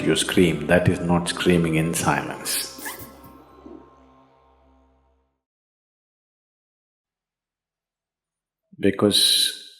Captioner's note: laughs